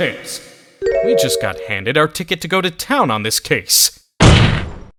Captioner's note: whispering